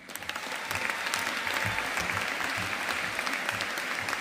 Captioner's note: audience applauding